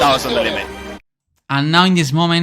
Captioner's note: commentator in Italian